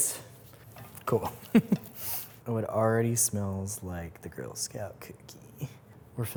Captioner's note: laughs